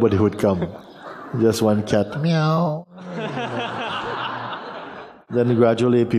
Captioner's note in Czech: Smích; smích